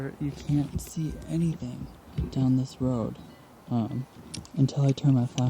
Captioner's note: none